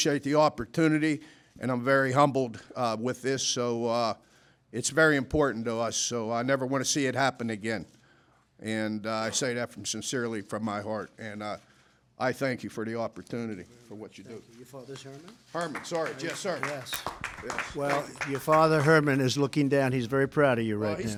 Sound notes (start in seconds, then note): 15.4 applause